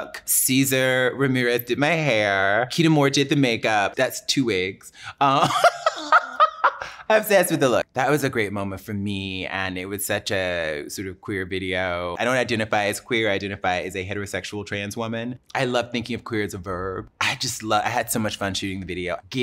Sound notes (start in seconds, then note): 5.3 laughs